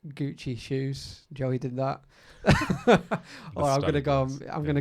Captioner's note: laughs loudly